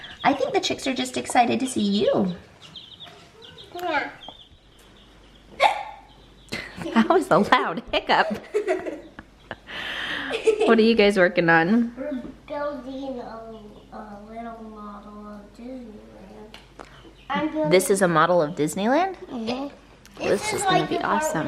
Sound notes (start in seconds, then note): 5.6 hiccup; 8.0 laughing